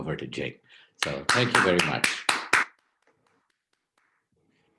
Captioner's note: clapping